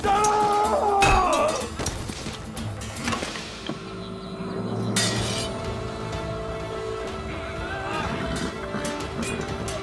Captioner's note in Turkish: Savaş sesleri; Müzik devam ediyor